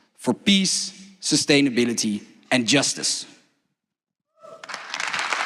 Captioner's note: applause